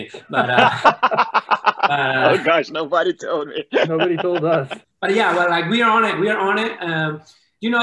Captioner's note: laughter